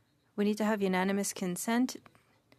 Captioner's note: speaking French